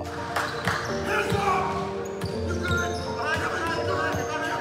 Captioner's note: men shout